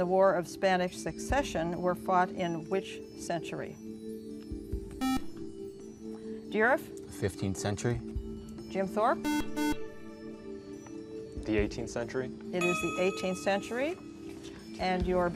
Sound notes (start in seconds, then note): 3.4 buzzer; 9.2 buzzer